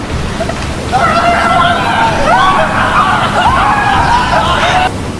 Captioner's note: screaming